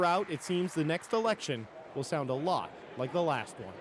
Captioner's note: applause